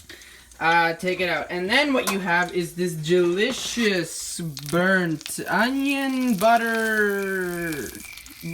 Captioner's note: crickets